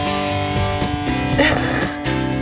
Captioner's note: laughing